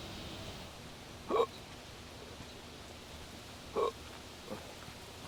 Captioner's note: hiccuping